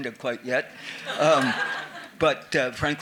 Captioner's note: attendees laughing